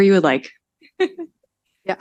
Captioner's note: chuckles